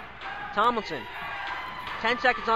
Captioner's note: crowd cheers